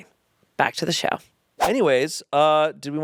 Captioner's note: transition whooshes